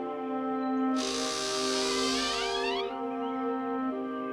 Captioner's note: doors creaking